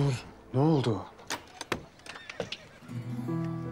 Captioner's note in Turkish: Kapı Sesi